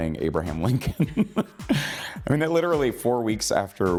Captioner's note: laughing